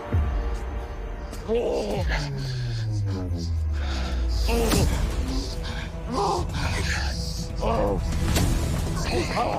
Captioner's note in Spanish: Quejidos